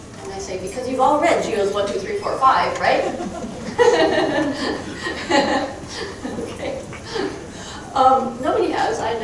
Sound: crowd chuckling

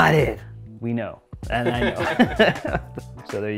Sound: laughing

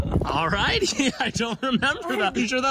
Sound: laughs

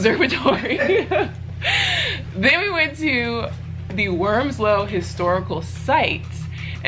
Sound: laughs

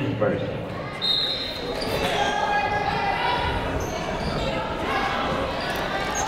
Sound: people shouting in the crowd

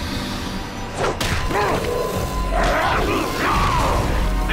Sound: fighting impacts and grunting

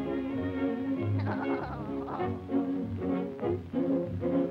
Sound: Henry laughs

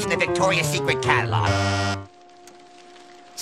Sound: bzzz

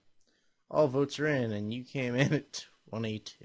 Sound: chuckles

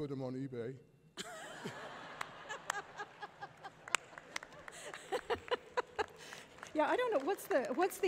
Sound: laughter; applause

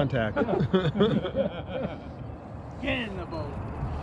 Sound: chuckling

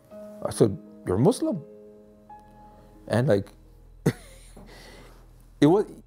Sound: laughs

